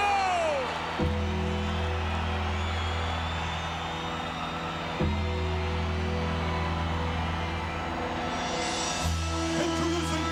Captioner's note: applause